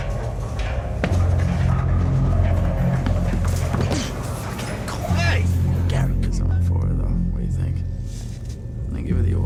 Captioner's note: none